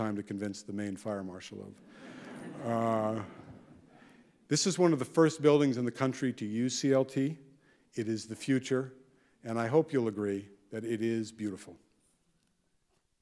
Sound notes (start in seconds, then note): 2.0 audience laughing